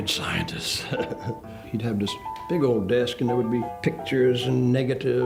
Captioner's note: chuckles